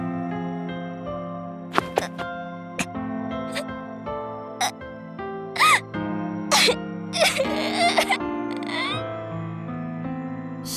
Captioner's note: sob